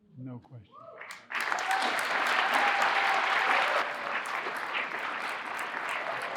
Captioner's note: audience applauding and cheering